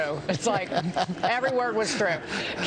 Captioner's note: laughter